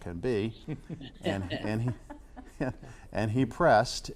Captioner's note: laughs